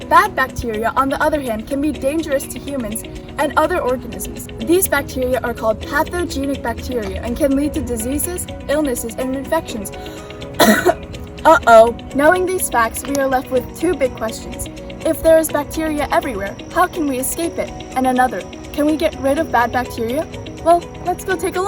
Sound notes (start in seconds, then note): 10.5 cough